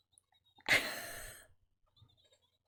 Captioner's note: laughs